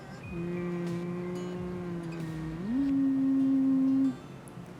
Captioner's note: humming